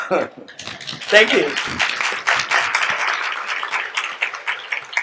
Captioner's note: audience applauds